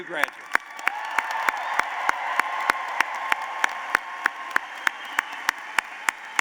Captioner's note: applause